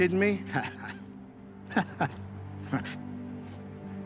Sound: laughter

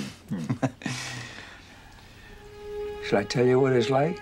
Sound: chuckles

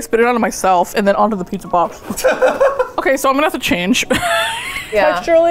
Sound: laughs

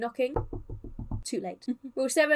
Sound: knocking sound; chuckles

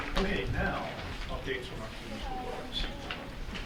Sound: faintly speaking

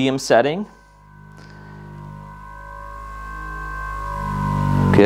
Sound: foam roller buzzing

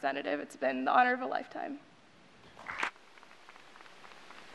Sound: applause

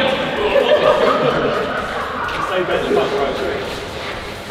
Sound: laughing

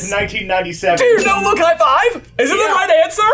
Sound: bell dinging

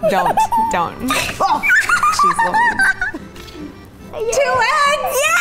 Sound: laughs

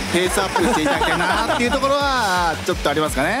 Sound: laughs

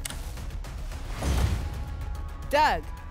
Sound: whoosh; thump

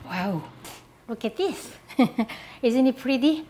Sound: laughs

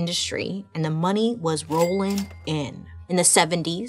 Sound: cash register ringing

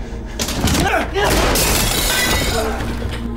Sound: gunshot

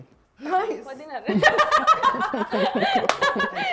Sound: laughs

